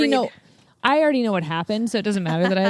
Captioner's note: laughs